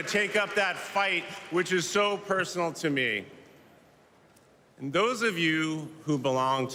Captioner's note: cheers and applause